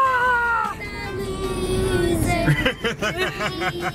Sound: laughing

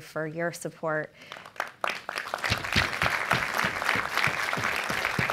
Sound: applause

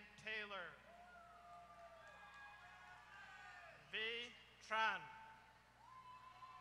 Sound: applause

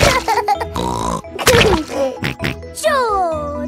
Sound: laughs and snorts

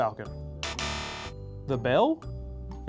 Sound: buzzer

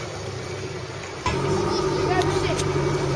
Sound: boat noises

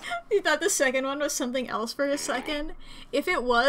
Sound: through laughter

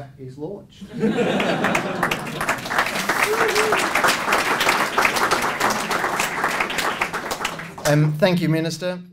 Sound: laughter & Applause

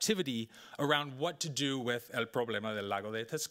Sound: speaking Spanish

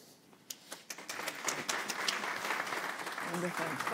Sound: applause

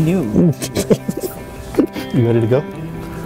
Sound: laughs

